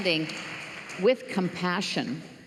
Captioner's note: applause